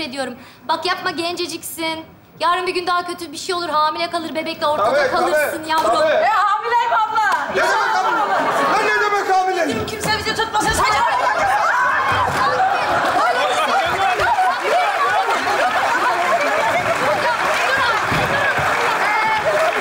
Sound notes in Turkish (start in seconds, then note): 10.6 bağrışmalar